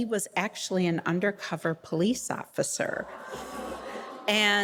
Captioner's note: audience groaning